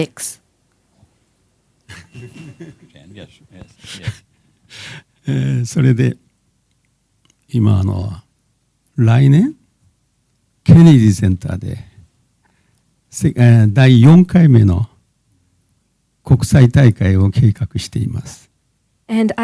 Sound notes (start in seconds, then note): 8.7 speaking japanese